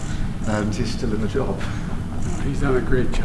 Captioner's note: laughs